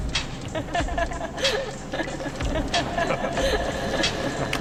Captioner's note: laughter